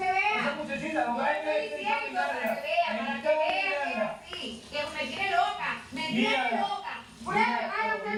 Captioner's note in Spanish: Hablan al unísono